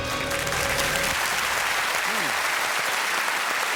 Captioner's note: applause